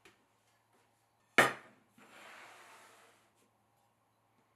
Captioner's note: board sliding